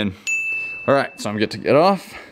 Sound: bell dinging

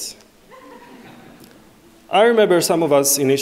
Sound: audience laughing

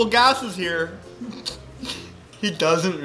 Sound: giggles; snickers

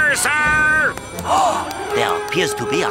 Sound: gasps

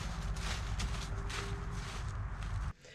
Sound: careful walking sounds

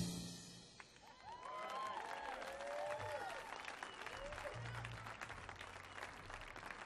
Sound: audience clapping; audience cheering

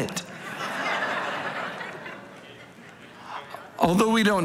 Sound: congregation laughing

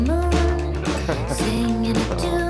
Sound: chuckles

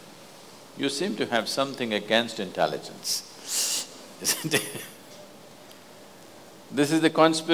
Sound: laughs

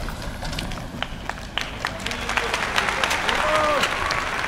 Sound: аплодисменты

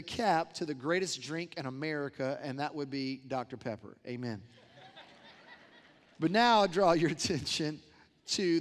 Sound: laughter

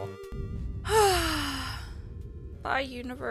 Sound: sigh

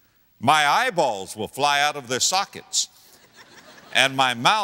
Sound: audience laughter

